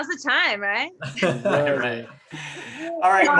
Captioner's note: laughs